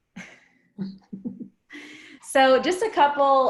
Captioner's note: chuckles